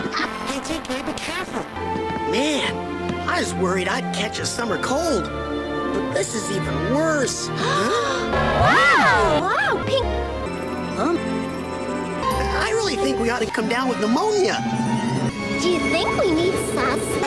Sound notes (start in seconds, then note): 0.2 distorted; 7.6 gasp!; 8.2 distorted